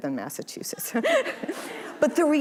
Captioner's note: audience laughing